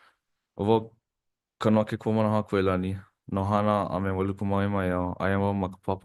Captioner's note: speaks Hawaiian